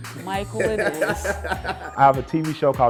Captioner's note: laughing